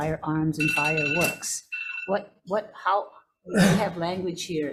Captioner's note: alarm rings